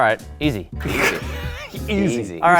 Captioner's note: laughs